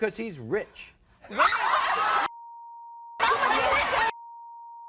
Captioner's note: women clamor